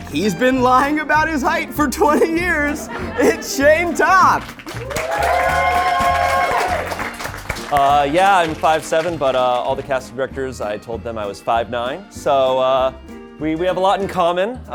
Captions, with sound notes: - He's been lying about his height for 20 years. It's Shayne Topp. (crew cheering) - Yeah, I'm 5'7" but all the casting directors, I told them I was 5'9" so, we have a lot in common.